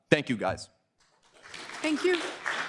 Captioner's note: applause